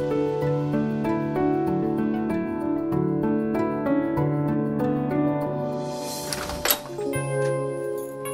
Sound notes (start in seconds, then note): 6.2 door opening